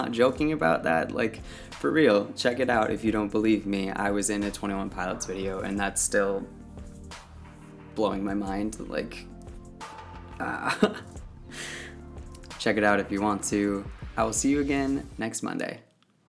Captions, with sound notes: joking about that. Like, for real, check it out if you don't believe me. I was in a twenty one pilots video and that's still blowing my mind. Like ah! *laughs* Check it out if you want to. I will see you again next Monday!